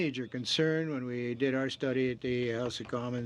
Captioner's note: speaking French